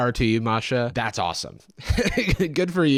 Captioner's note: laughs